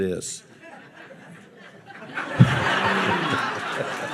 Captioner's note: audience laughing